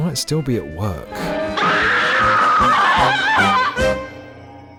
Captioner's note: blood curdling scream